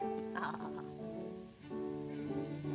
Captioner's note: chuckles